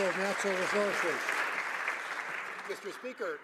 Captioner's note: some Applause